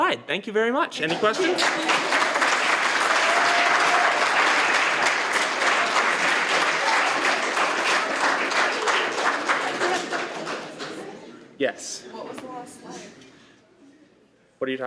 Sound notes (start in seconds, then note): 1.1 applause